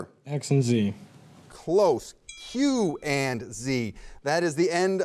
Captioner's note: bell clangs